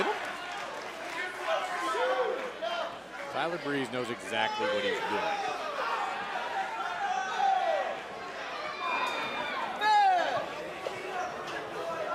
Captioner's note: crowd chatter